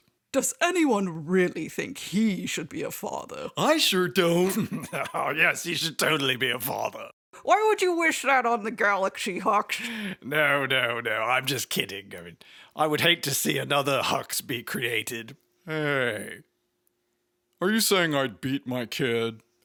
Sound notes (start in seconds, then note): 4.2 chuckling